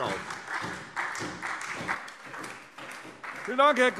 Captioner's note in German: Beifall SPD und Freie Demokraten